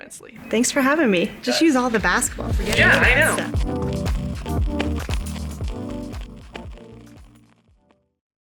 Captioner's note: laughs